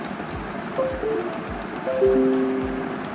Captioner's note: connected sound